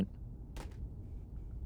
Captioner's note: cassette falling